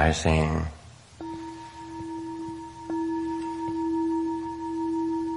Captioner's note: bells chiming